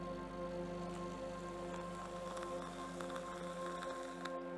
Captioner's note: pouring